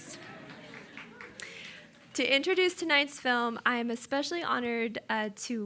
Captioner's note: applause